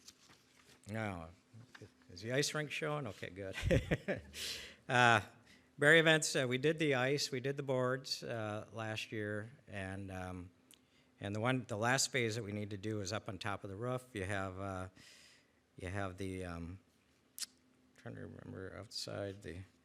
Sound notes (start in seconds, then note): 3.3 laughs